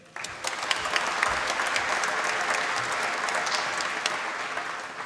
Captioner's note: applause